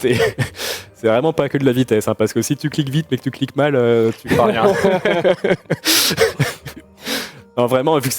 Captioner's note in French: rires; rires